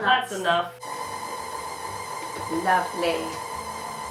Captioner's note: mixer noise